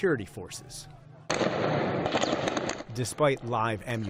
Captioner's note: gunshots